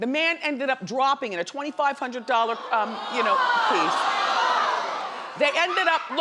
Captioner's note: crowd yells